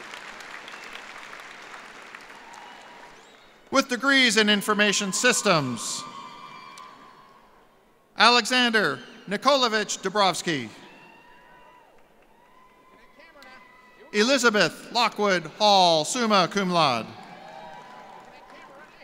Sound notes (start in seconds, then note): 4.3 cheers and applause